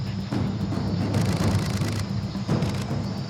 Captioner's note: camera shutter clicking rapidly